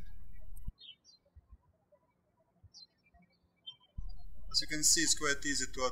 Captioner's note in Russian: птички щебечут